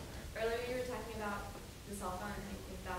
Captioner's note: woman's Voice